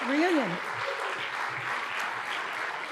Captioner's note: applause